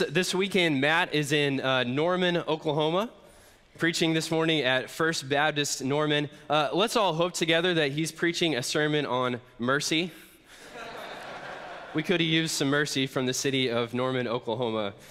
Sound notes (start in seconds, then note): 10.5 congregation laughs